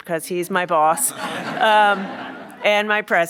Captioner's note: laughs